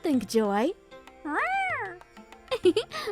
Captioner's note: Joy meows; giggles